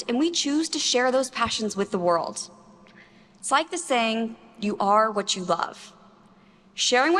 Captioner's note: none